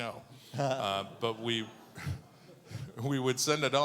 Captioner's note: audience laughing